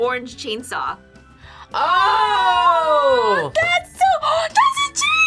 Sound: gasps

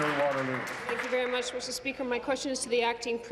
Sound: applause

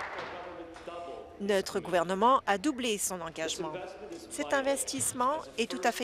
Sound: some Applause

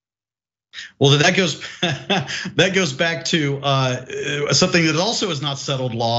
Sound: laugh

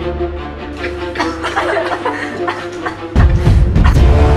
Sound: coughing

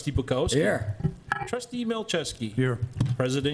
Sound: pat; pat

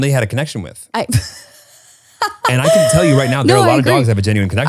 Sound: laughs

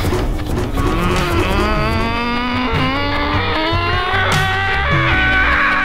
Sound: growling

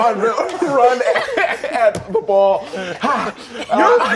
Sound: all laughing

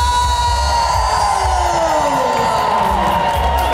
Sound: cheers

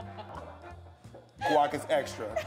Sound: laughter

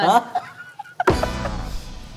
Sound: slams hand on the table

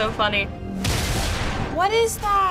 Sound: explosion

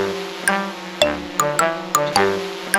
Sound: drone buzzing; whimsical music

